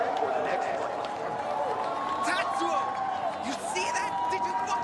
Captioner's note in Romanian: Aplauze